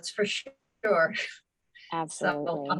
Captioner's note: laughs